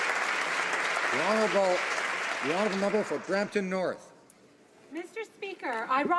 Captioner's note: some Applause